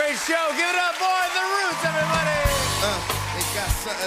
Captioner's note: cheering and applause